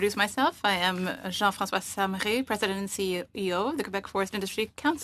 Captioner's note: speaking French